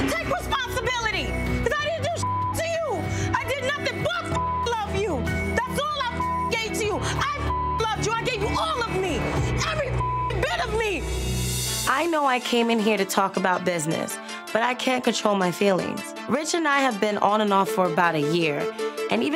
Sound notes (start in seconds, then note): 2.1 beeps; 4.2 beeps; 9.3 beeps